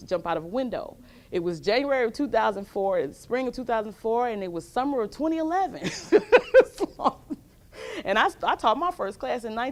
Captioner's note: laughs